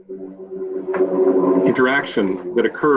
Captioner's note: plane engine roars